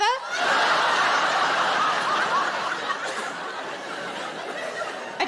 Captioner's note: audience laughing